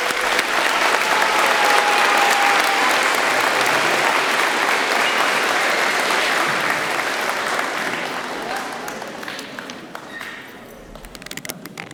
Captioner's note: applause